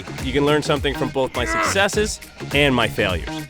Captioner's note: groans